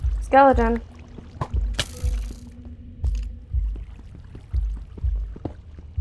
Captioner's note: heart beating